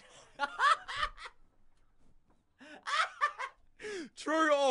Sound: laughing

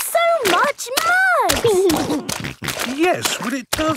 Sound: snorting

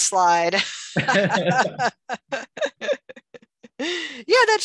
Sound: both laughs

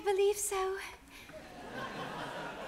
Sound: audience laughs

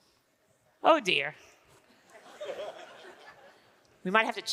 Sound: audience laughing

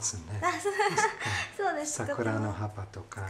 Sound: laughter

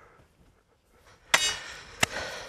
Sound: short clink

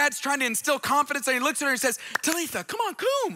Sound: speaks in foreign language

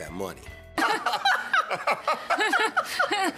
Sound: laughing; nervous laughter

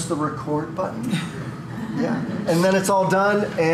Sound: laughter

